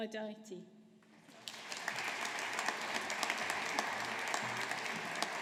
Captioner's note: audience applauding